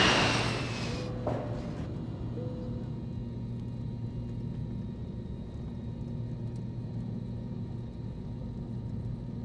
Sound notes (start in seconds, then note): 0.0 airplane ambience